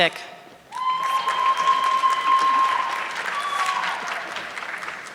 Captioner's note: audience clapping